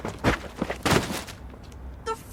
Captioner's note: rug thudding